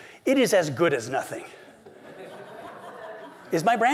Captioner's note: laughter